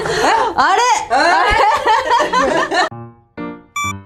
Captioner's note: laughs